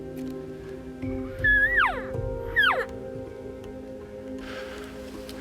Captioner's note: elk call squeaking